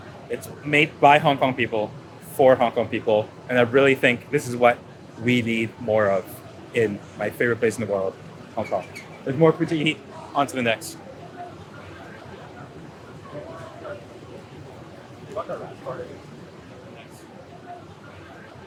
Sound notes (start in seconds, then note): 11.4 people chattering